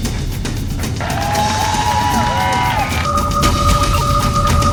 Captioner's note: crowd cheering; machine beeping